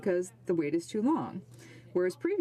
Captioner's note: speaking French